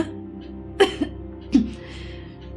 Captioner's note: coughing